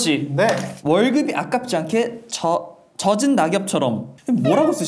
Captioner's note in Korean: 떠듬떠듬